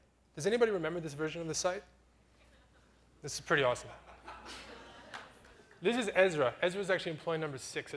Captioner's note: audience laughter